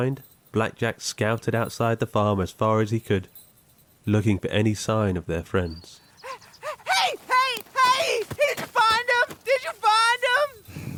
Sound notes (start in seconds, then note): 6.0 sheep panting; 6.7 swift footfalls